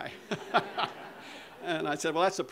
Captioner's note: audience laughter